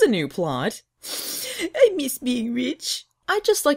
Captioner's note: sniffles